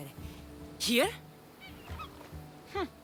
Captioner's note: Elpidios giggling